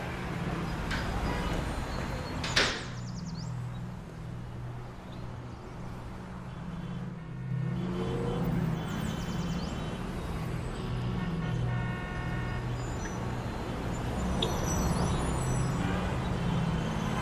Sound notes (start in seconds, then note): 1.9 birds chirping; 1.9 cars honking